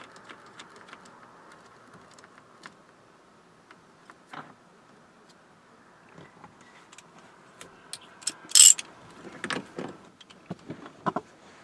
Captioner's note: silence